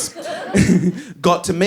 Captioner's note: laughs